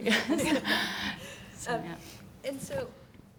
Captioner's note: group laughing